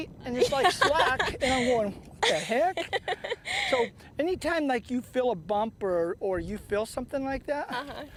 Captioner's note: laughter